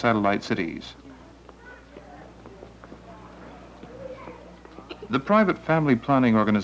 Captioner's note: woman's footsteps on sidewalk, sounds of children nearby